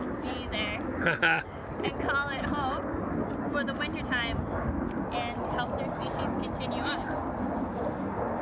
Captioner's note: laughs